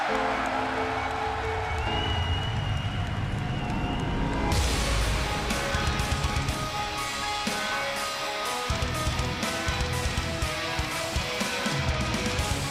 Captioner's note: crowd cheering